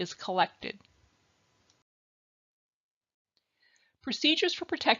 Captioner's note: silence